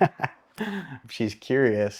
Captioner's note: laugh